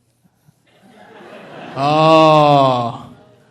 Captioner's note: audience laughing